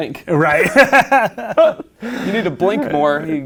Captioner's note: laughing